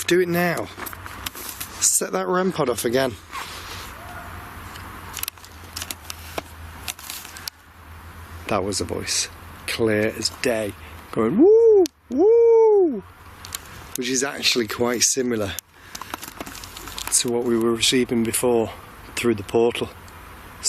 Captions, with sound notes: Do it now, set that REM POD off again. (distant yell) That was a voice, clear as day. Going, "Woo! Woo!" Which is actually quite similar to what we were receiving before through the portal.